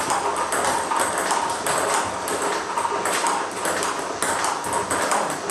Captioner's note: ball ping pong hitting continues